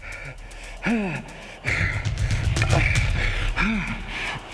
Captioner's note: Shepherd panting